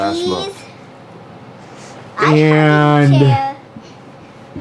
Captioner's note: toddler babbling